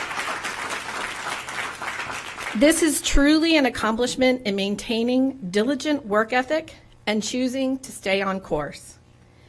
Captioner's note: applause